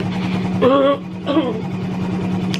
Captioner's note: clearing throat